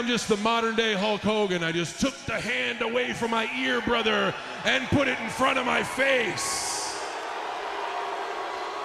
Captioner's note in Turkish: Alkış